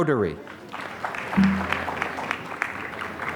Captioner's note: applause